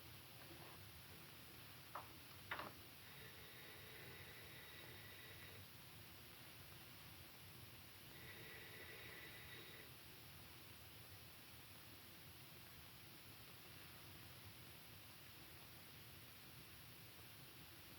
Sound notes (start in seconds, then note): 3.4 phone ringing